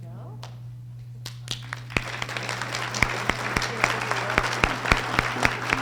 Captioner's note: audience applause